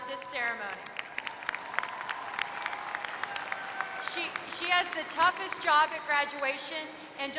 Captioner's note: applause